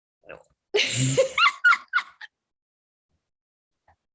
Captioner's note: Ashley laughs